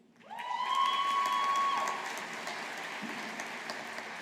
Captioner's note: audience applauding